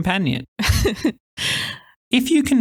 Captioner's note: sensible chuckle